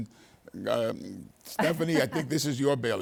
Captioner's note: laughing